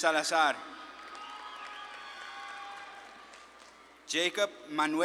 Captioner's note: audience claps and cheers